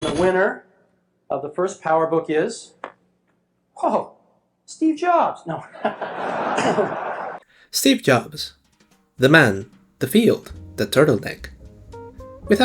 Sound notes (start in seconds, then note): 5.6 laughter